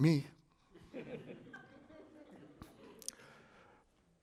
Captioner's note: laughter